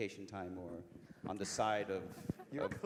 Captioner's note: laugh